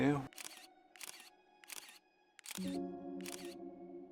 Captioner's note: camera snapping